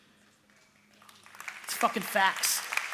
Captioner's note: applause